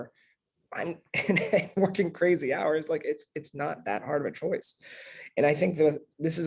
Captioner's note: laugh